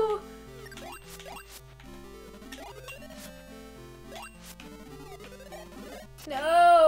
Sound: mickey mouse voice; long pause

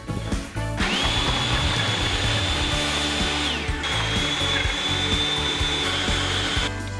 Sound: cheerful music; blender whirring

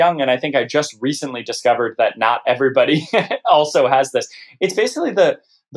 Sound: laughter

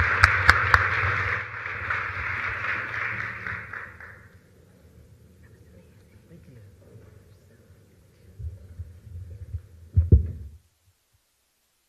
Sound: applause

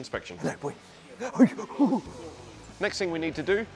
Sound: coos

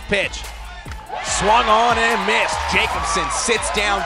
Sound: crowd Cheering

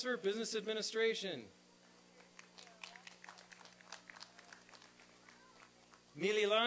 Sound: applause and cheering

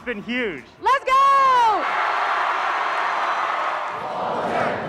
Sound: crowd cheers

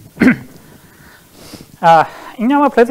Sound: coughs

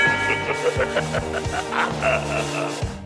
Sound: evil laughter

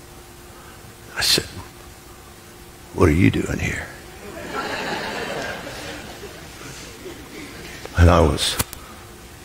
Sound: congregation laughs

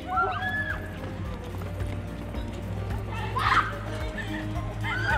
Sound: girls screaming and laughing

